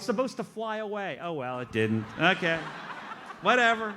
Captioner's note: audience laughs